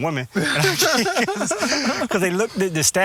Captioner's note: laughing